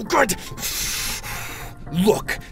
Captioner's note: deep breath